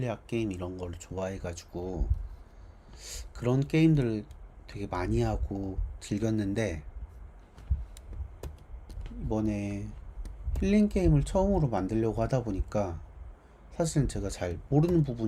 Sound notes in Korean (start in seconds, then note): 3.9 콧방귀